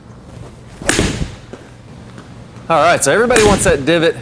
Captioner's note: whacking noise